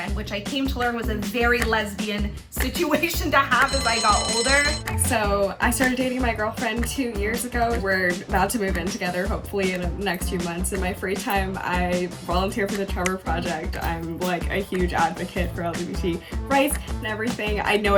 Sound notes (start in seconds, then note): 3.5 bell dinging